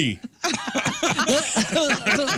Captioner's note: laughing